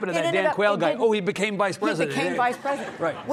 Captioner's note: audience laughing